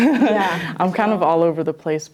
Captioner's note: laughs